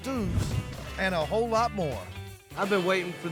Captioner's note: stomps ground